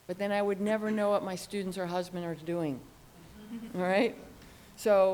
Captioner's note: audience laughs